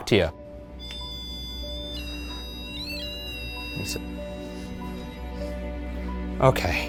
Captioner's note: eerie music; REM-Pod squealing